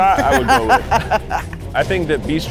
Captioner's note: laughs